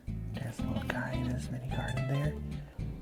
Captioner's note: hushed